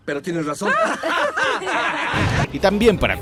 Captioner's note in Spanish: se parten de risa